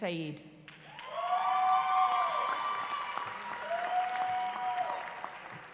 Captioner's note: cheering